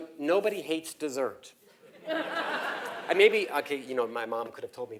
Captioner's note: laugh